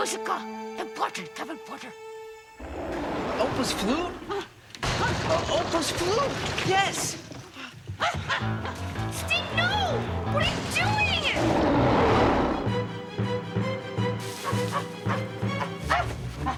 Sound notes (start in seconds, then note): 2.6 Scarface roars; 6.4 treehouse rumbles; 8.6 dramatic music; 12.0 Scarface roars; 13.5 intense music; 16.4 Scarface growls